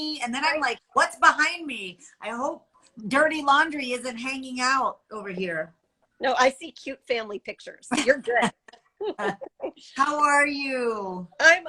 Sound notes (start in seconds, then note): 9.0 chuckles